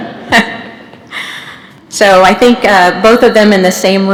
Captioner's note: laughter